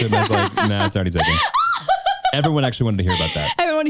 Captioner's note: chuckles